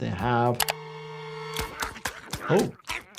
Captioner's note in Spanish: música de suspenso; mordisqueando los dientes